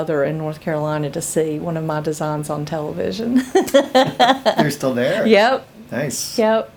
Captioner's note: laughs